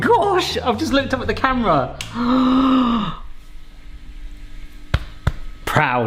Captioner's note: gasps